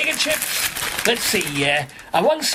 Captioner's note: crinkling